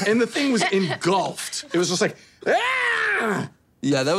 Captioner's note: screaming